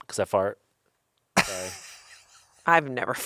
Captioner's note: laughs